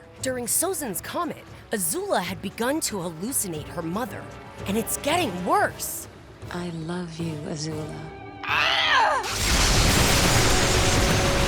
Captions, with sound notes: During Sozin's Comet, Azula had begun to hallucinate her mother, and it's getting worse. I love you, Azula. [groaning]